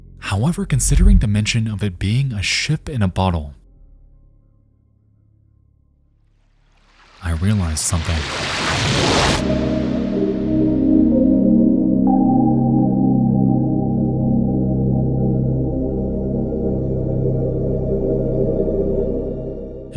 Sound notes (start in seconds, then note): 7.1 waves crashing; 9.6 ominous music